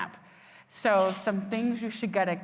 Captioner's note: attendee coughing